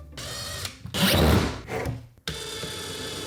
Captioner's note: drill whirs